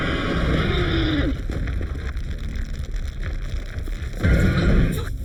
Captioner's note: shark roaring; ground rumbling; shark roaring